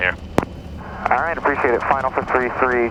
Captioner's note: Traffic